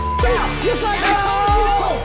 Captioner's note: beeping